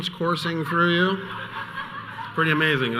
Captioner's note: audience laughing